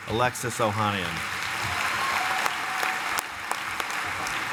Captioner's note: applause